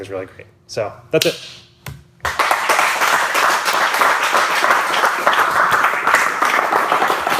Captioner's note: audience clapping